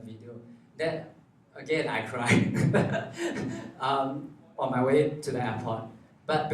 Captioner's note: laughs